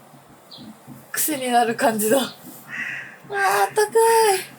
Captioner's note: laughs